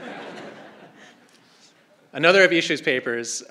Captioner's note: crowd laughing